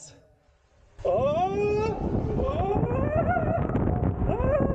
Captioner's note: screams